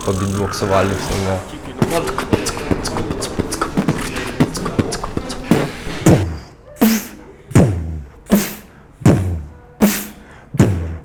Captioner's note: beatbox